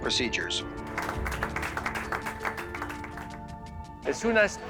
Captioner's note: people clapping